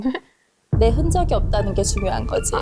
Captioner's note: displeased sound effect